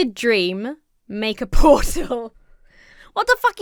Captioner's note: laughs